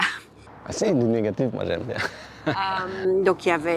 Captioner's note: laughs